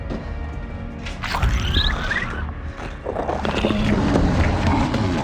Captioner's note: Rose speaking in Spanish; puppet snarling